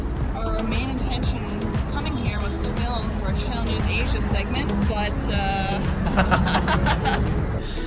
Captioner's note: laughs